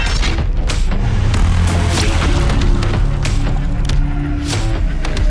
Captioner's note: gravel crunches